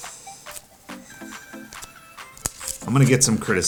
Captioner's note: papers rustling